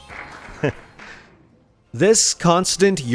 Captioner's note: pause for uproarious laughter